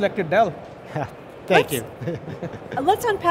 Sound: chuckles

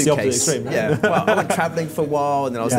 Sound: laughs

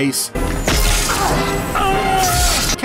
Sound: gun shooting; man screaming

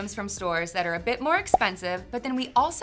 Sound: pop

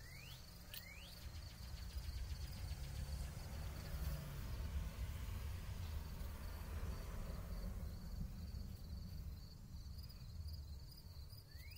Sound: throwing The Bread Out For The Birds/Car Passes

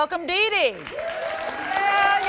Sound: applause

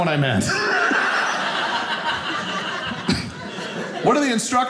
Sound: audience laughing

